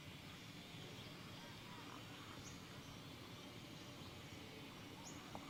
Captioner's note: birds chirping